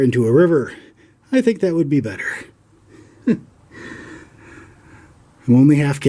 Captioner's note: chuckles